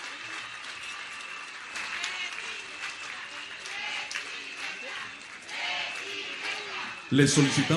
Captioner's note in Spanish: aplausos